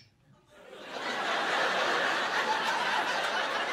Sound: laughter

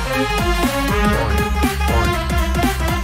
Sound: SFX: "Boing. Boing."

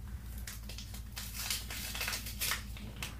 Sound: tearing open envelope

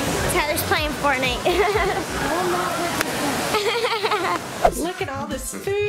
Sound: laughs

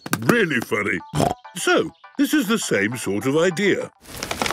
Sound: snorting

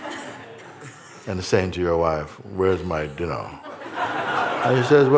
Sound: laughter

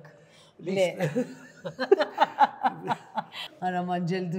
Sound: both laugh

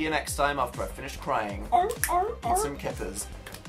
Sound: barks like a seal

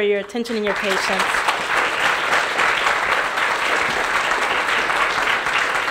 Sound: applause

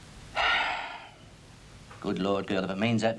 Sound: heavy sighing

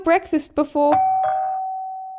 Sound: doorbell

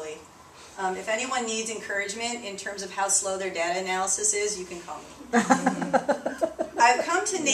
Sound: laughter

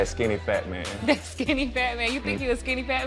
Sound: chuckling

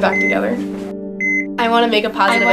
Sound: health monitor beep

